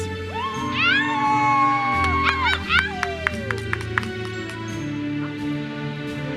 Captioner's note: audience cheers and applauds